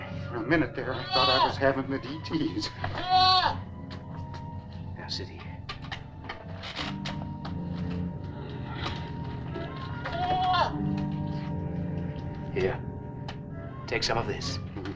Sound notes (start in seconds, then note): 9.6 goat bleating